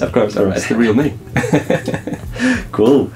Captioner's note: laugh